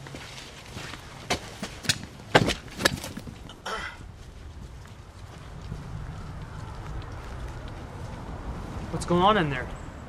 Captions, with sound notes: [knife slices] [struggle sounds] What's going on in there?